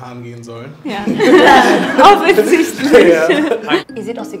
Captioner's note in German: lachend